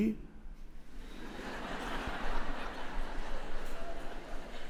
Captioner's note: audience laughs